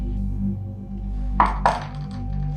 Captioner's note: knocks on the door